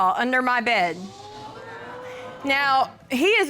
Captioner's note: audience exclaiming